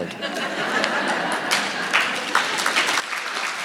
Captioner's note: audience laughing; audience clapping